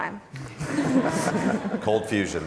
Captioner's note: laughs